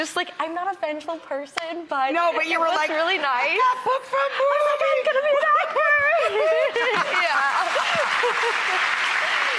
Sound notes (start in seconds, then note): 6.6 laughs; 6.7 audience applauds